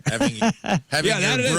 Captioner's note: laughing